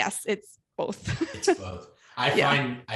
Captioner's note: laughs